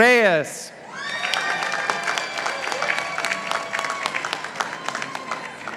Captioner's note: participants applauding